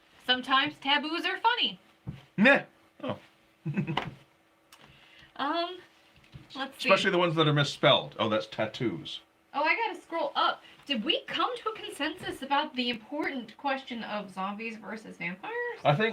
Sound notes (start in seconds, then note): 3.6 giggling